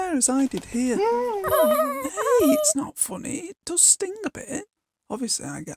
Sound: laughing

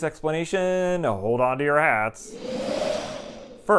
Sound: wind sounds

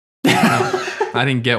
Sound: laughs happily

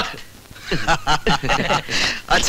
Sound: laughs

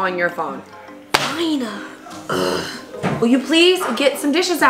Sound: groans

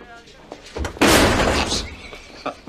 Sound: cabinet slams; Frank laughs

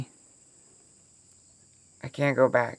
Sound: insects chirping

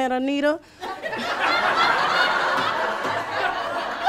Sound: laughing

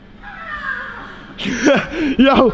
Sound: screams

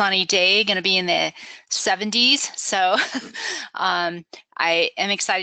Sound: laughs

